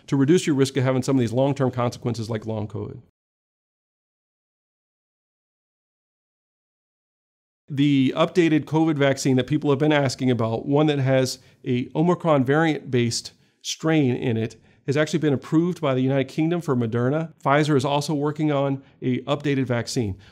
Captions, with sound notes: to reduce your risk of having some of these long-term consequences like long COVID. [Silence] The updated COVID vaccine that people have been asking about, one that has a Omicron variant based strain in it. It has actually been approved by the United Kingdom for Moderna. Pfizer is also working on a updated vaccine.